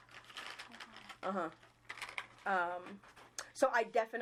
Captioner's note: paper rustling